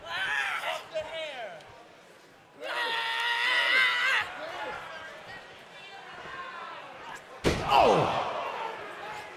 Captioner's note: crowd chatter